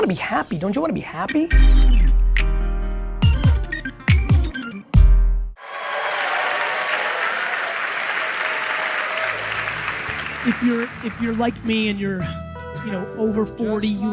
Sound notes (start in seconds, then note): 3.1 upbeat music; 5.6 audience applauds